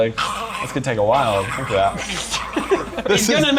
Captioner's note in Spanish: Los ruidos moribundos se intensifican